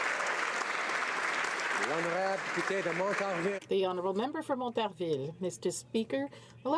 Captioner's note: applause